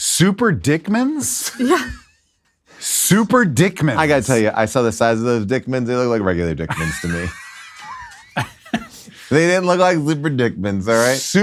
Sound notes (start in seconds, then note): 8.3 laugh